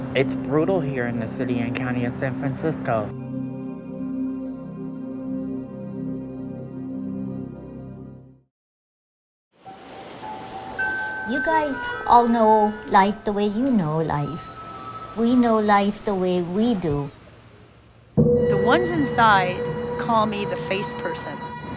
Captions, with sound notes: -It's brutal here in the City and County of San Francicsco. [pensive music] [breeze blowing] -You guys all know life the way you know life. We know life the way we do. -The ones inside call me The Face Person.